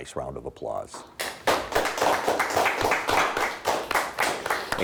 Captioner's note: clapping